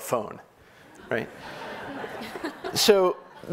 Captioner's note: audience laughing